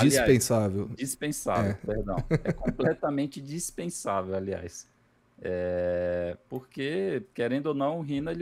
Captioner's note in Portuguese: risadas